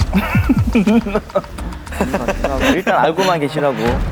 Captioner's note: heart beating